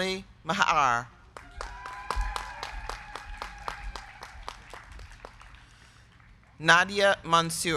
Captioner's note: crowd clapping; crowd cheering